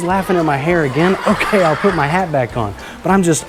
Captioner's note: children laugh